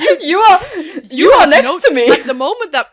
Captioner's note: laughs